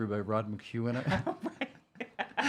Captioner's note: laughing